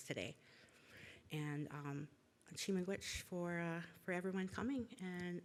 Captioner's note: foreign language